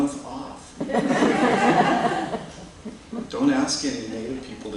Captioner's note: laughter